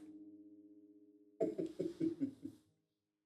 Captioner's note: chuckles